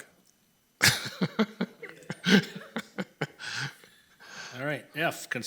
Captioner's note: committee members laughing